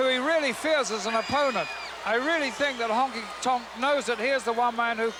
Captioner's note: crowd cheers